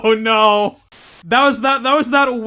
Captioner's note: static